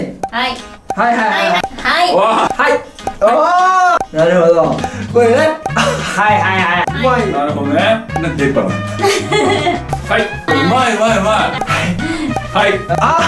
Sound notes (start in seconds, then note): 3.5 clock; 7.9 clock